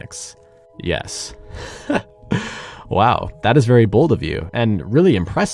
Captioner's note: boss laughs